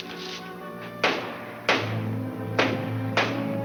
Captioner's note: banging